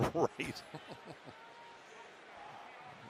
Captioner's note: laughs